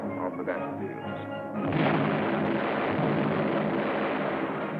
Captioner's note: explosion